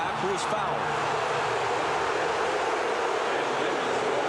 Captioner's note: crowd booing